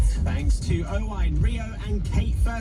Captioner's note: radio news plays